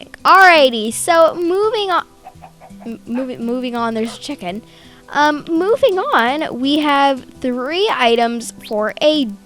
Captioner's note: chicken bocks